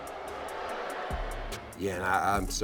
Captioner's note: crowd booing